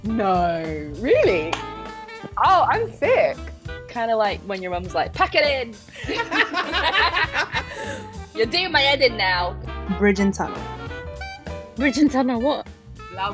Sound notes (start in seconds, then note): 5.9 laughing; 10.1 voiceover